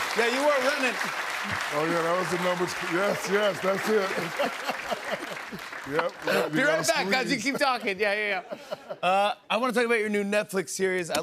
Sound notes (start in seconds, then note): 3.7 laughter